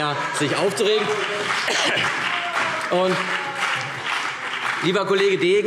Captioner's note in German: Beifall CDU und BÜNDNIS 90/DIE GRÜNEN - Lachen DIE LINKE - Zurufe